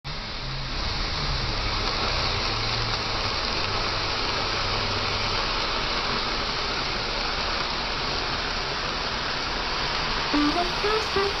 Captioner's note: fire Sizzling